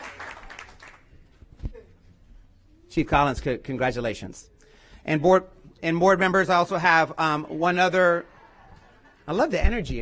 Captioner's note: cheers and applause